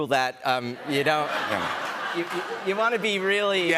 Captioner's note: laughter